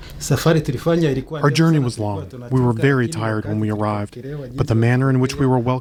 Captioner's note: through translator